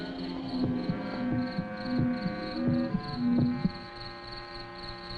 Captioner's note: rhythmic thumping